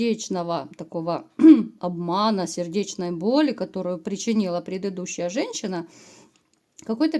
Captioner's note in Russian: откашливается